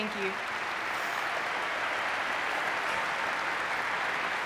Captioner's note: audience clapping